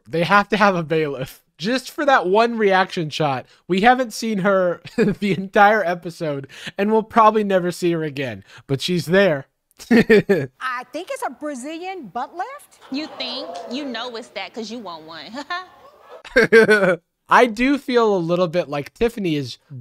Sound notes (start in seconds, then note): 9.8 laughing; 15.3 laughing; 15.9 laughs